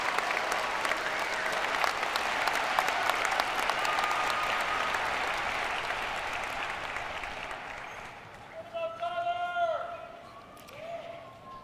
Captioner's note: cheers and applause